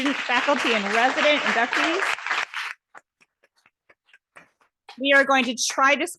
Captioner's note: audience applauding